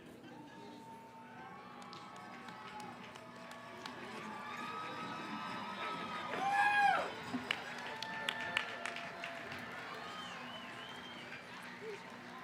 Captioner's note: cheering & applause